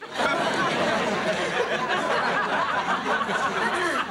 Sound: audience laughing

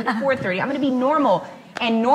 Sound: laughs

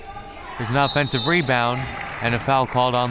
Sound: whistle

